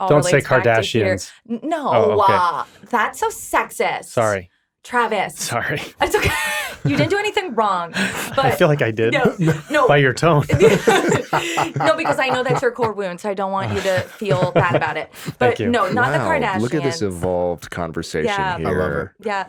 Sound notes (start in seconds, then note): 10.5 all laughing